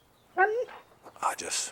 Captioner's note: Buck barks